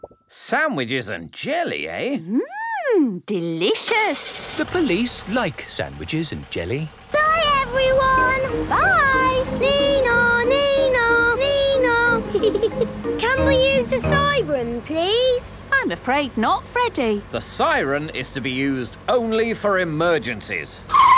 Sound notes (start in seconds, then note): 9.9 Freddy imitates the siren